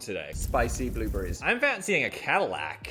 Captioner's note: flames crackling